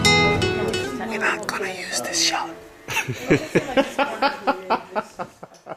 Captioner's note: cameraman laughs